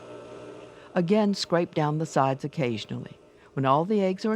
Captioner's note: voiceover